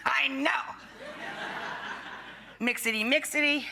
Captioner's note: audience laughing